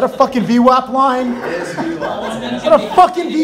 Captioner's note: laughing